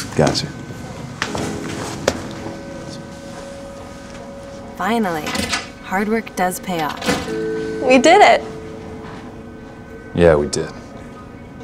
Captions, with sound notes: - Gotcha. - [Voiceover] Finally, hard work does pay off. We did it. - Yeah, we did.